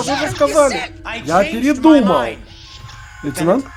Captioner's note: chekov screams